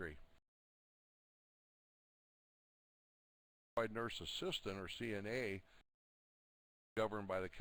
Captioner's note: audio drops